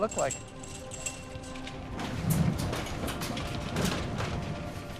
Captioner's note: wind howling, metal rattling